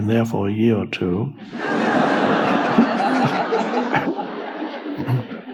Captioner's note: audience laughs